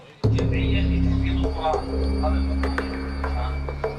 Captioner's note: Arabic spoken audio